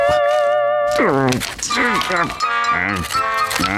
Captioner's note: grunting; chuckles